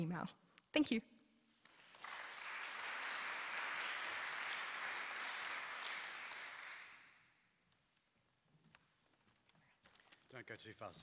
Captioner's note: applause